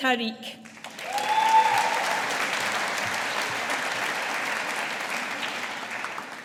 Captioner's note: audience applauding